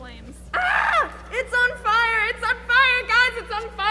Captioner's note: screams